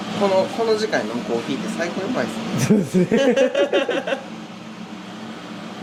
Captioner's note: laugh